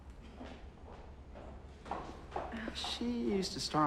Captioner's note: shoes clacking